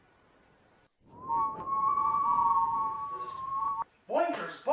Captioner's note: The Power whistling